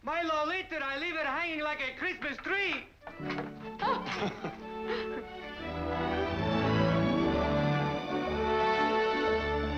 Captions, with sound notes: - My Lolita, I leave her hanging like a Christmas tree. (laughing) (uplifting music)